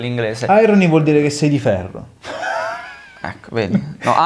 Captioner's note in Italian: sogghigna